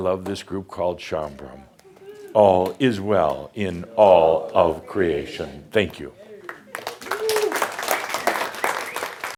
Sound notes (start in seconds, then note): 6.4 audience applause